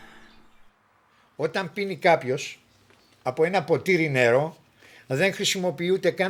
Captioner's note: speaking in Greek